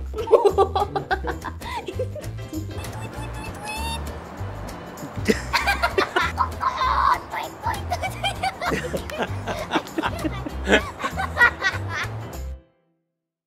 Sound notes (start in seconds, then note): 0.1 laughing; 2.6 mimicking bird sounds; 5.0 laughing